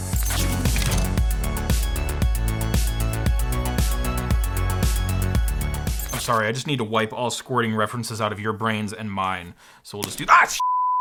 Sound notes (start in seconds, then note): 0.0 bright energetic music; 10.6 beep